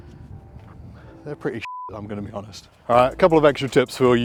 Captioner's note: beep